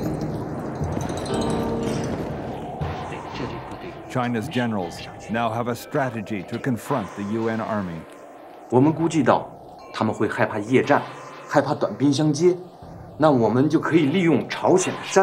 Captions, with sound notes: China's generals now have a strategy to confront the UN Army. (speaking foreign language)